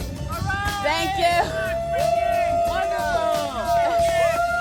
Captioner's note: cheers